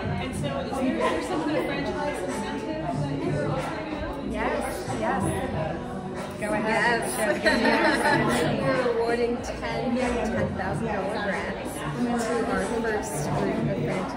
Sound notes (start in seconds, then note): 7.2 laughs